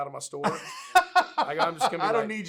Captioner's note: laughs